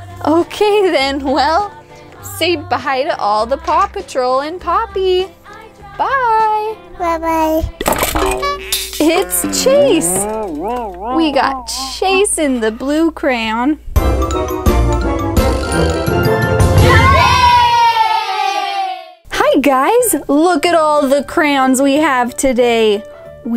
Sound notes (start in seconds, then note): 14.2 upbeat music; 16.8 kids cheering